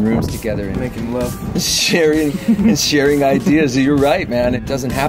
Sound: laughs

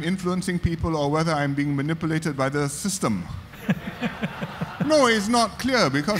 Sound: audience laughter

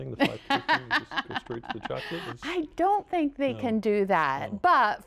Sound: laughter

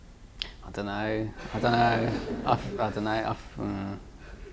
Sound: audience laughs

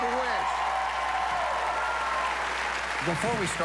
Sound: cheers and applause

